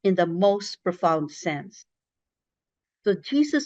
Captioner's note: none